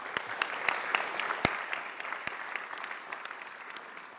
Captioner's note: audience applauds